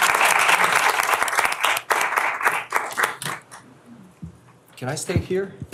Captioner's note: applause